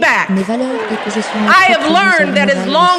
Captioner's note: cheering